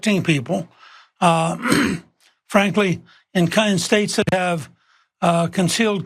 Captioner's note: cough